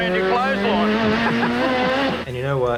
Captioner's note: laughter